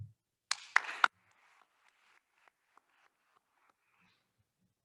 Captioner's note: attendees applauding